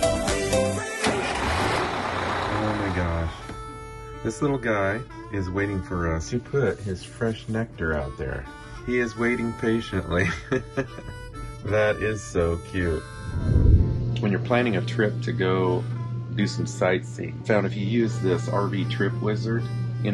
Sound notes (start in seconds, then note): 10.1 laugh